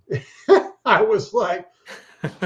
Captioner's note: chuckles